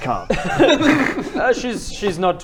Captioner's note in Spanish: risas